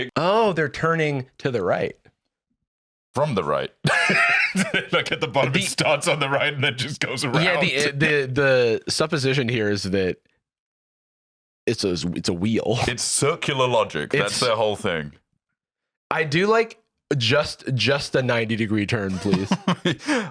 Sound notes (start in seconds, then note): 3.8 laughs